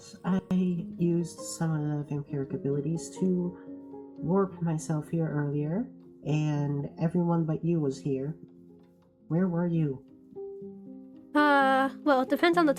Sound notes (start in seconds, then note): none